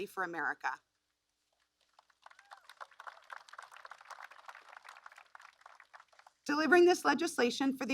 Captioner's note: applause